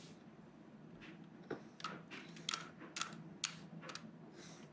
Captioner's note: trains knocking together